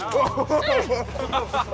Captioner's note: struggles